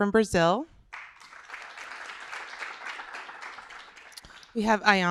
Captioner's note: applause